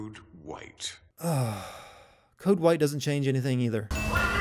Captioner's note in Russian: вздох